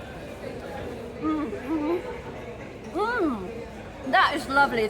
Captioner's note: happy mouth noises